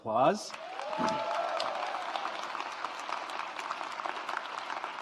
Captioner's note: audience applauds